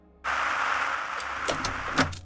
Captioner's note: static sounds